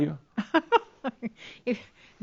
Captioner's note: she giggles